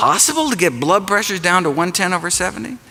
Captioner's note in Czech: none